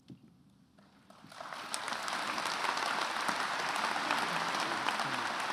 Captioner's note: attendees applauding